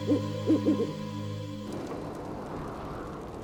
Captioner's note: owl hoots